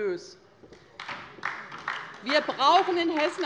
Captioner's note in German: Beifall bei der LINKEN